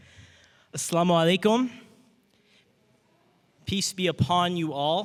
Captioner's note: speaking in foreign language